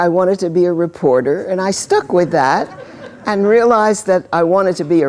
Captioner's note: laughter